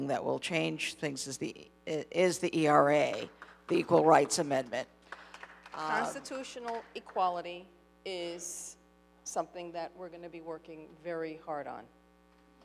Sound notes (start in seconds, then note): 5.1 audience applauding